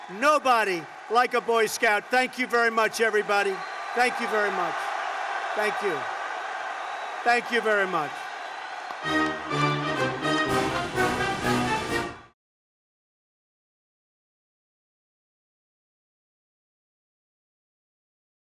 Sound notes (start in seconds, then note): 8.9 applause